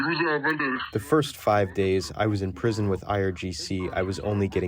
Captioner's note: through translator